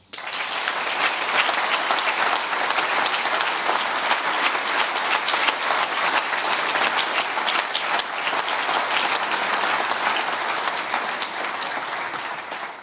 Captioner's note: audience applause